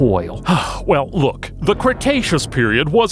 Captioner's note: sighs